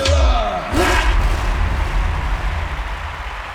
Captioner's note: applause